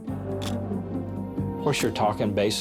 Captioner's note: camera shutter click